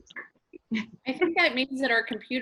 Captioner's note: laughing